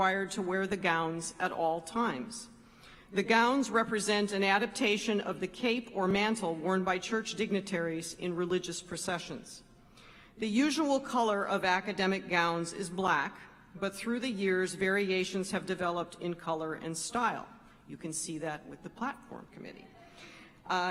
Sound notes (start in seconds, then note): none